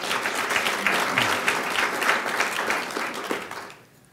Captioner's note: audience clapping